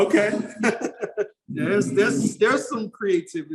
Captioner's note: laughs